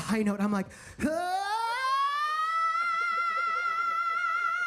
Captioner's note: Percy vocalizes